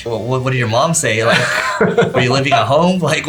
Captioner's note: laughs loudly